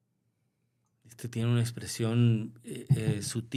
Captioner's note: clears throat